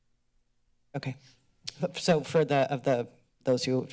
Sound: click tongue

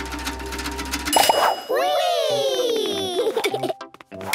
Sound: pings

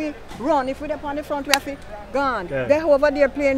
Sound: sound with her hands

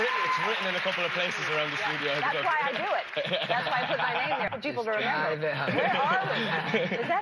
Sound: applause

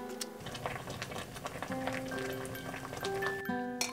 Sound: boiling

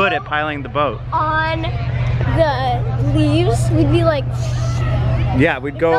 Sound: whooshes

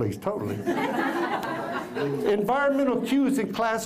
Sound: laugther

